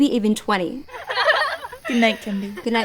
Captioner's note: girls giggling